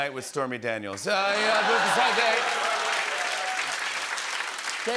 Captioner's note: laughter and applause